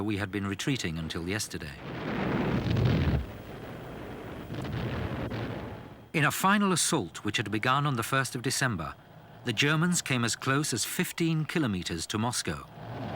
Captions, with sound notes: we had been retreating until yesterday." (explosions booming) In a final assault which had begun on the 1st of December, the Germans came as close as 15 kilometers to Moscow.